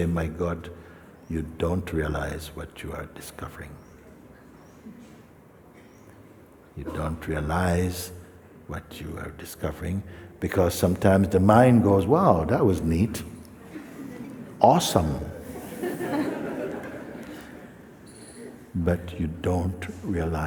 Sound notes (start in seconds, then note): 15.4 laughter